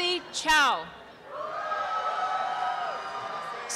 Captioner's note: applause and cheering